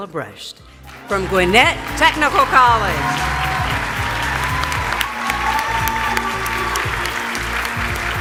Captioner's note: applause